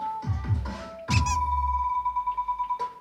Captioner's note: the phone rings tirelessly again today